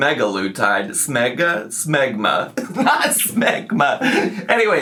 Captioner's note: laughs